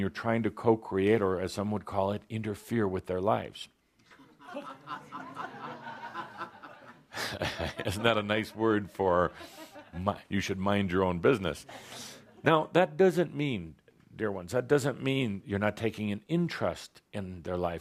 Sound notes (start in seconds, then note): 4.1 laughter; 7.0 chuckles